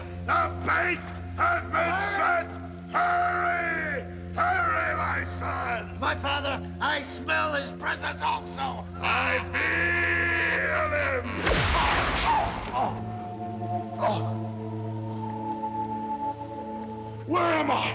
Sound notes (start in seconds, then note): 12.8 Hulk grunting; 16.7 ominous music